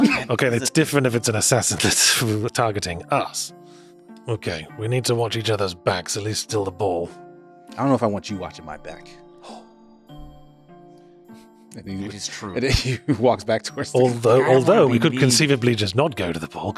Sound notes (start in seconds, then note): 9.5 gasps